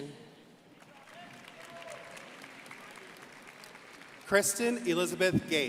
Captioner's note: crowd applauding